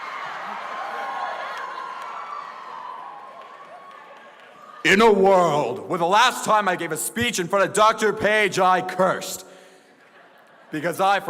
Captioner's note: applause